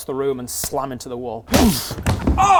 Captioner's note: boof!